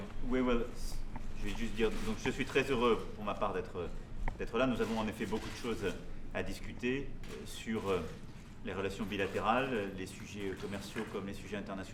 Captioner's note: speaks in French